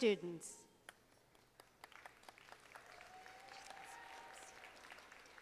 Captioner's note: audience applauding